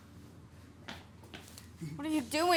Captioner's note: footsteps echo